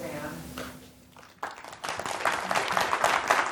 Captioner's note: applause